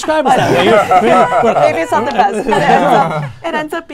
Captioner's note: laughter